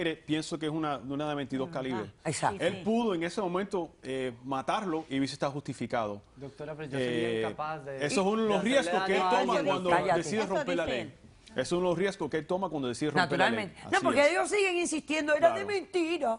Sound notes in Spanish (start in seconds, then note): 8.6 Hablan al unísono